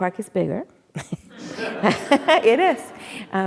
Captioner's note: laughs; audience laughing